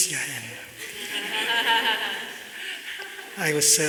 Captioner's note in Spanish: Risas